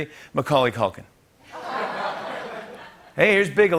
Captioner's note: laughter